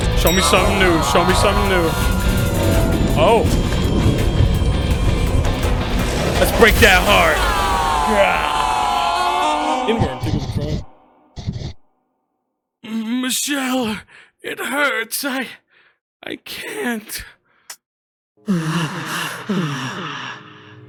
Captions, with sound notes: Show me something new, show me something new. Oh. Let's break that heart! (the Duchess yells) "M-Michelle.. It hurts... I... I can't... (the Duchess pants)